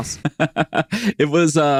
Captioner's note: laughing